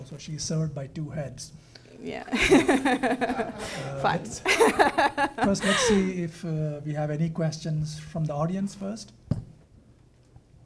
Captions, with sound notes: So she's served by two heads. - Yeah. (laughing) - First, let's see if we have any questions from the audience first.